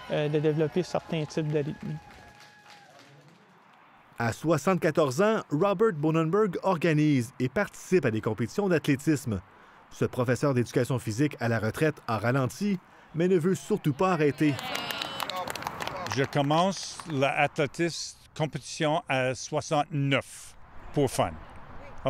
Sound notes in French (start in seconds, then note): 14.3 applaudissements